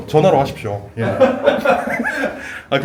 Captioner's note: laughs